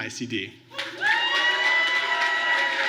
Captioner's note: applause